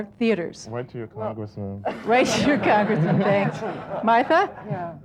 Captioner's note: laughs; laughing